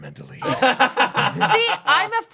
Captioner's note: laughing